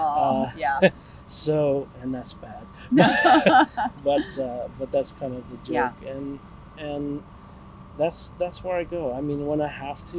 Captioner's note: laughs